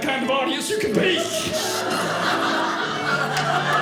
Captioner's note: audience laughing; audience applauding